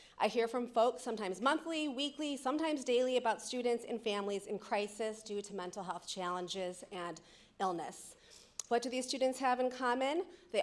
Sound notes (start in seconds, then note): none